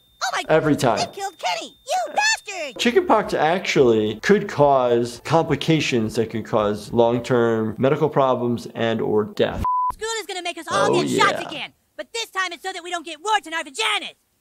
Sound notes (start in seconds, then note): 9.6 background tonal beeping